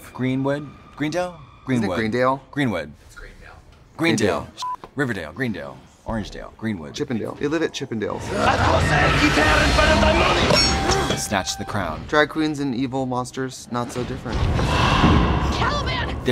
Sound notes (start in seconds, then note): 4.6 beep; 8.6 shouting